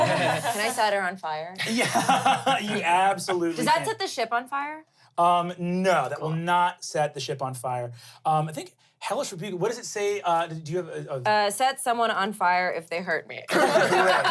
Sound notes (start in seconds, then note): 0.0 everyone laughs; 1.6 laughs; 13.5 everyone laughs